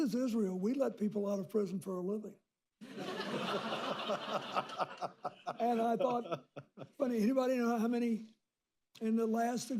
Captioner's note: laughter